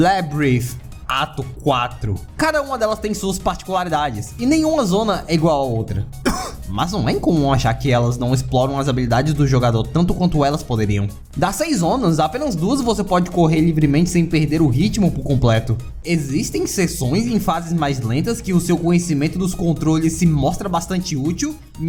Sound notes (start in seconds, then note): 6.0 cough